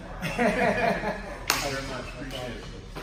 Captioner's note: laughing